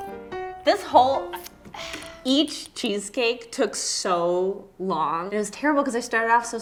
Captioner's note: funky piano music; sigh